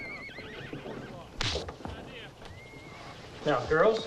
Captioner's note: hand smacks